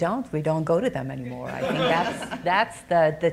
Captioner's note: audience chuckling